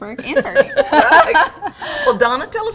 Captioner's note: all laugh